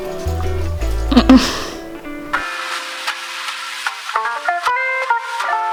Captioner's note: snort